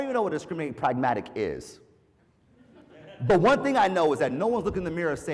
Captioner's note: laugh